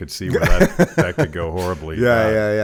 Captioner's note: Dave laughs